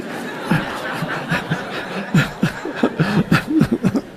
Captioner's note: instructor and audience laughs